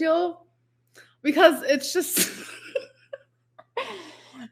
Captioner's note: laughs